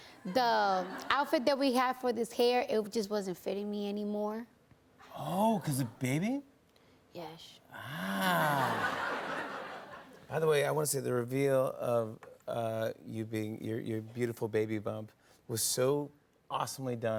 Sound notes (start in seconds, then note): 8.2 laughter